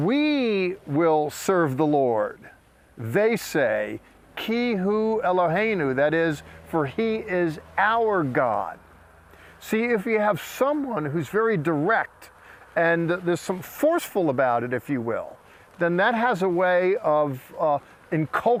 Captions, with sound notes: "We will serve the Lord," they say, [speaking in Hebrew] That is, "For he is our God." See, if you have someone who's very direct, and there's somefy